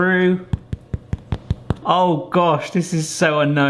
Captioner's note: tapping